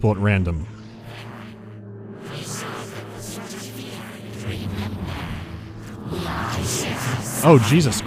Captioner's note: telepathic chatter overlaps, causing cacophony